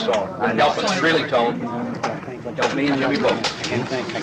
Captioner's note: crowd murmuring